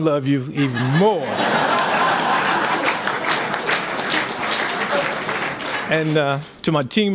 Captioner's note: laughter